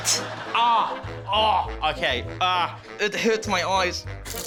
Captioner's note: groans in pain